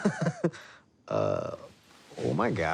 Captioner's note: laughter